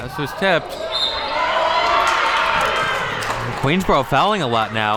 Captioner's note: players cheering; whistle blows